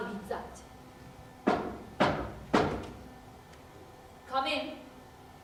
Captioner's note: there is a knock at the door